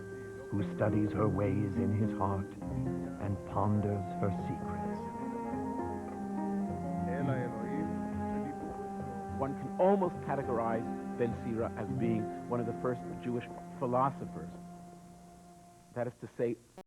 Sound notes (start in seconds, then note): 7.2 speaking Hebrew